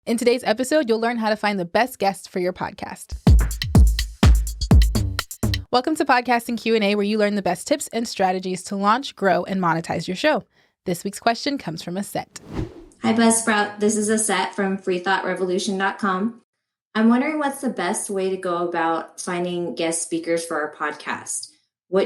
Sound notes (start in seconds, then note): 3.2 upbeat music; 12.3 whooshing